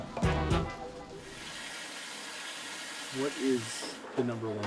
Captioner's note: water streaming